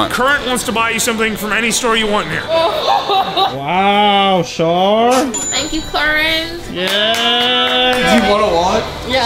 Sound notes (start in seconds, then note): 2.5 laughing; 6.8 clapping